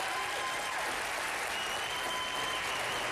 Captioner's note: applause